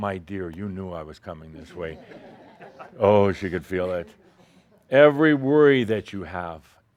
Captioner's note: a few chuckles